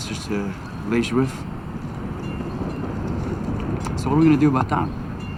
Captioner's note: speaking in foreign language